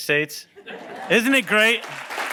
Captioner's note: laughing